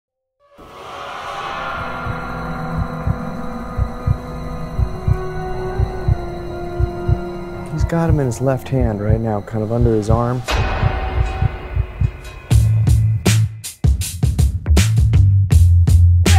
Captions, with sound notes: (suspenseful music) (heart beating) - He's got 'em in his left hand, right now. Kind of under his arm. (metal crashing) (upbeat music)